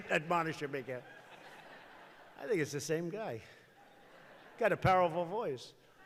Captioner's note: laughter